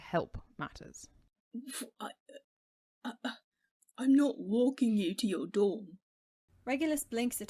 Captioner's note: splutters